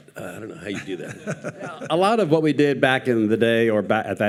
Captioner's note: participants laughing